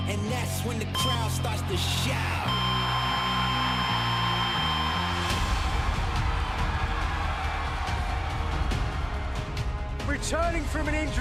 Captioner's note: crowd cheering